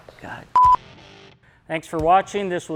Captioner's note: beep